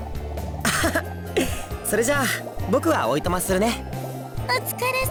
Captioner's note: laugh